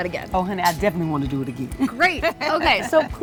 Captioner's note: laughs